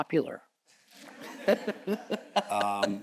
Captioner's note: audience chuckles; chuckles